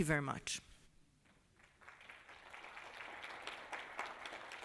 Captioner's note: applause